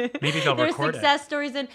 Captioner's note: laughing